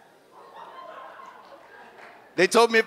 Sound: audience laughs

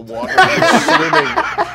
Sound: laughing

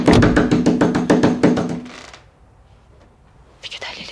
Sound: door knocking

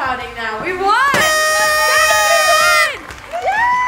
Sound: horn sounding; cheering

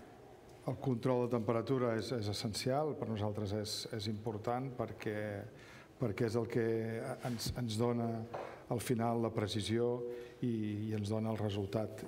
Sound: speaking catalan

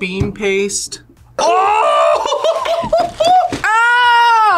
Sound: laughs

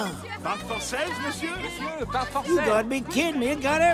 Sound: multiple vendors talking

